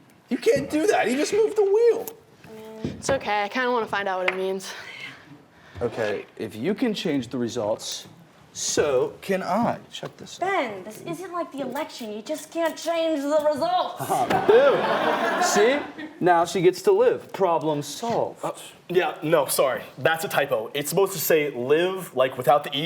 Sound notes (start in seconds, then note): 14.0 laughing